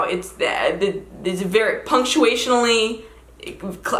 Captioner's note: stammers